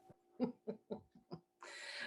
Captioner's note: laughing